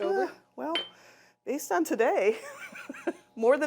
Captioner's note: laughs